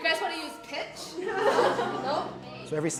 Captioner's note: laughing